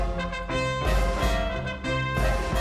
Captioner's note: none